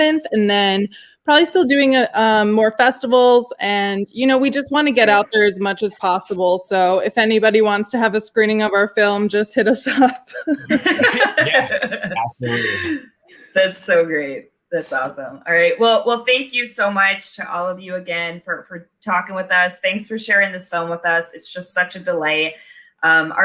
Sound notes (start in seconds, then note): 9.8 laughing